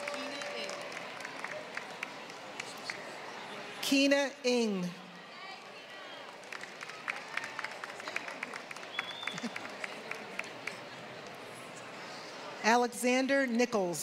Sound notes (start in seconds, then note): 0.0 applause; 5.6 applause